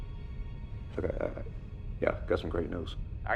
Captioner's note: stutters